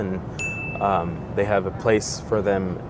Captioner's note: bell rings